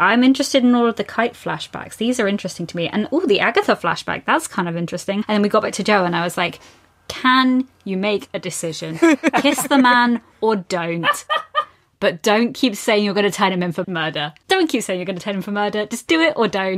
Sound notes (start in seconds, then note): 8.9 laughing; 11.0 laughs